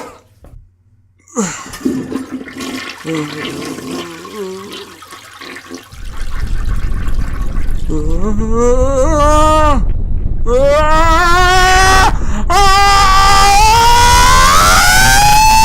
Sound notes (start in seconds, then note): 1.3 toilet flush, Ol' Man Jo moaning; 8.7 Ol' Man Jo exclaiming; 12.4 Ol' Man Jo screaming